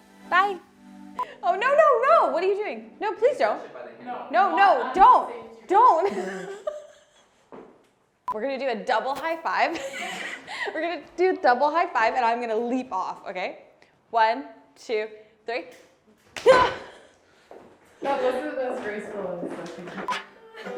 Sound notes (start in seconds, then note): 6.0 laughing; 9.8 laughing; 20.6 music beeping